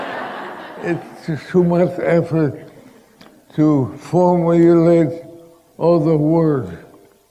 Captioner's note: laughter